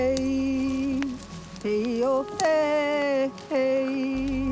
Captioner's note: woman singing in foreign language; fire crackling